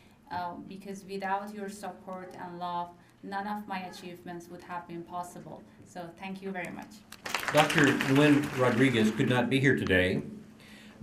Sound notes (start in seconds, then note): 7.1 applause